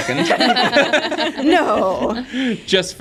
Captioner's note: all laughing